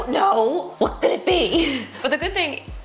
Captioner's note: laughs